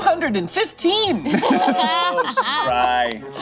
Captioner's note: laughs